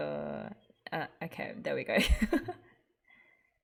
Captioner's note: laughs